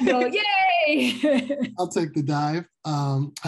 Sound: laughing together

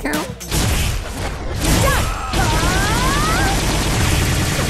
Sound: kicking, yelling

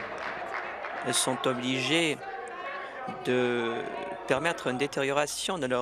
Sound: applause

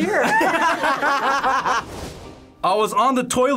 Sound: group laughs

